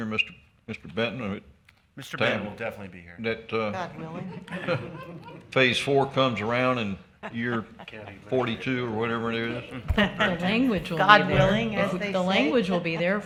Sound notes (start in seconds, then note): 3.9 chuckling and murmurs; 7.2 people chuckling